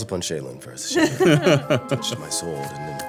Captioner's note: everyone laughing